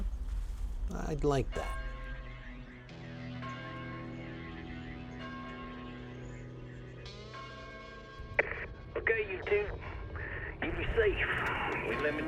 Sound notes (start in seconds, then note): 4.5 church bell rings; 10.0 radio